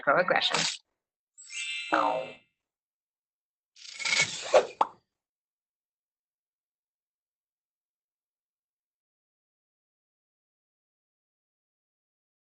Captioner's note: sound Effects